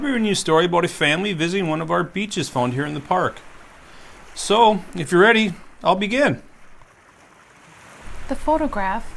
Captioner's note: waves